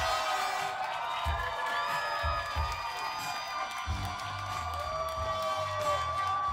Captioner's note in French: vivats et applaudissements